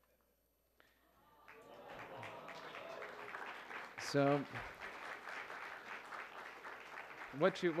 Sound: ooo’s and aah’s and applause

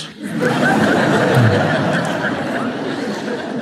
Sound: audience laughs

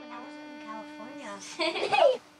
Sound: girls laughing

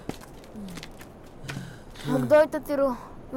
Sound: sighs; sighs

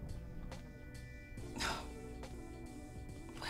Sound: Efosa sighs

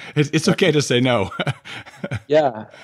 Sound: laughs

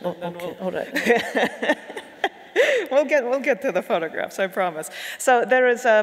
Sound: laughing

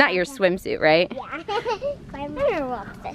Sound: laughs

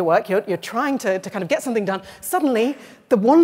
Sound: none

